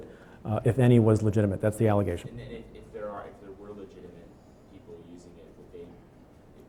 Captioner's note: stutters; stutters